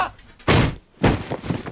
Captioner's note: Montoya screams; head thumps; body thumps